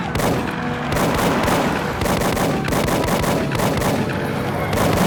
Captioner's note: tank machine gun booming